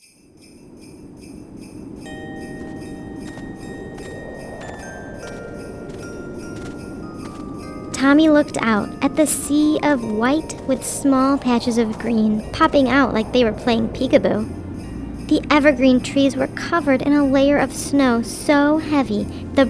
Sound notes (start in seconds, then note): 0.0 soft Christmas music; 3.1 footsteps plodding